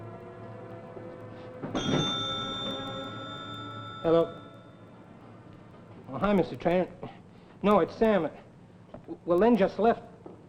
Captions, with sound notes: (telephone ringing) - Hello, oh, hi, Mr. Trainer. No, it's Sam. Well, Len just left.